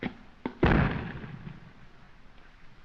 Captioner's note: explosion